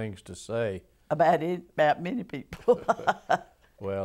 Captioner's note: laughter